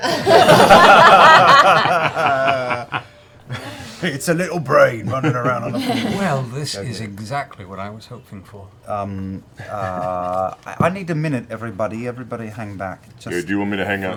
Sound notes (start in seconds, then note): 0.0 laughter; 3.5 Grog voice